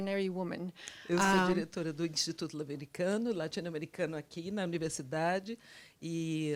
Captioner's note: translator speaking Portuguese